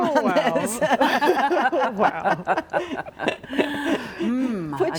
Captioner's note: all laughing